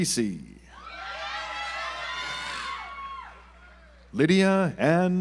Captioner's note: audience applauds